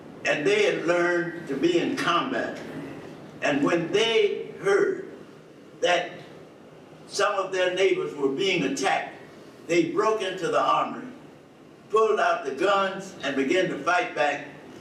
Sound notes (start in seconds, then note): none